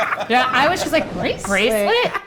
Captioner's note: laughing